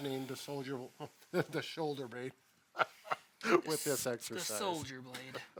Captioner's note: laughing